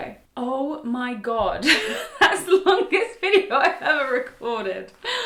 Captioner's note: laughs